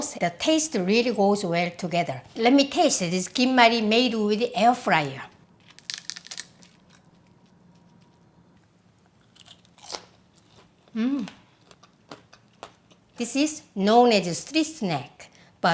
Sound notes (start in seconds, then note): 9.0 food crunching